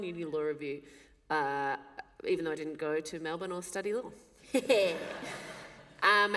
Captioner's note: laughter